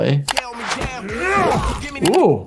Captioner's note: funky song plays; man grunts loudly